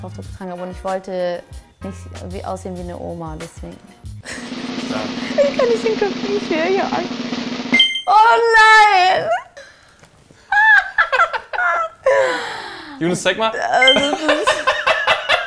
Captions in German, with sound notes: weil das so das allererste Mal war, dass ich Kopftuch getragen habe. Ich wollte nicht aussehen wie eine Oma. * Trommelwirbel * Ich kann nicht hingucken. * Pling * Oh nein! (sie lacht) (Kameramann lacht)